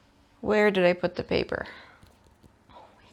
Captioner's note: none